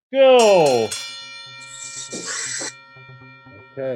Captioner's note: bell ringing